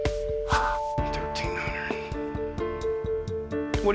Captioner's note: quietly